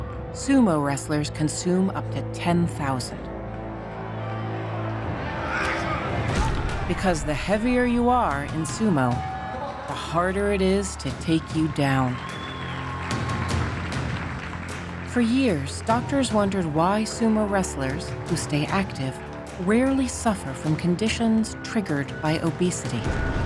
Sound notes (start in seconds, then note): 5.4 men grunting; 12.4 audience cheering